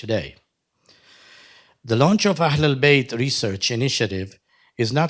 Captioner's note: sighs